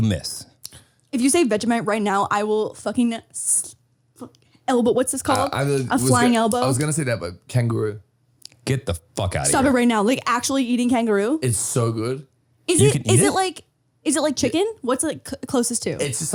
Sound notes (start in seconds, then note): 5.3 murmurs